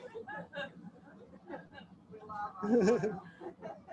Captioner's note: indistinct chatter and laughter